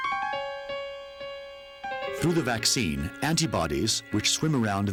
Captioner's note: baby crying